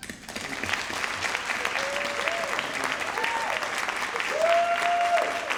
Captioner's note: audience cheering and applauding